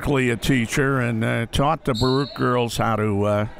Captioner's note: referee blows whistle